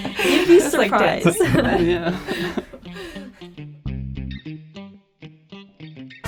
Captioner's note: all laugh